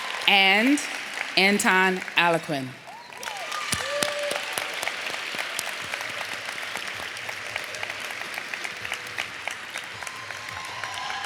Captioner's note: applause